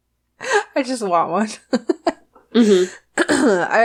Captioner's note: laughs